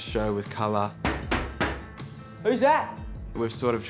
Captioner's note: knocking